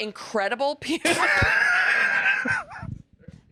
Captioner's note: laugh